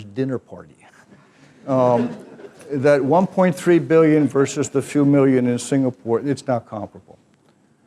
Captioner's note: laugh